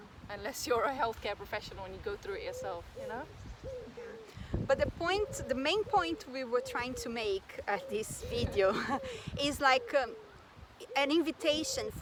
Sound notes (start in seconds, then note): 8.5 risos